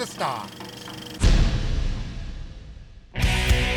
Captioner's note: thud; upbeat music